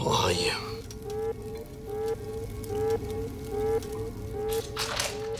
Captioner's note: alarm blaring continues